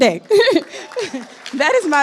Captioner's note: chuckles